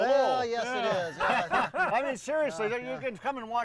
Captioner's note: group laughing